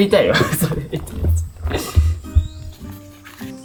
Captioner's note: laughs